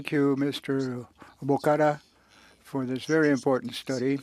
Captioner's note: speaking French